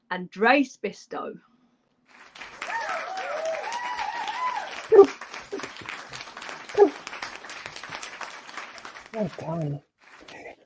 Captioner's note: audience clapping